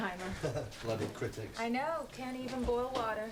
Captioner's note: Rob laughs